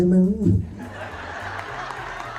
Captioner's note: laughter